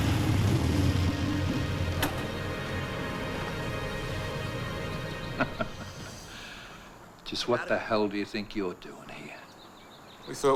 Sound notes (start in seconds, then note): 5.3 man laughs